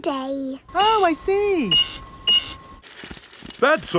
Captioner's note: cash register beeping